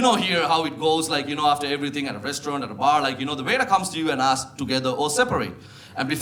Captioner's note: none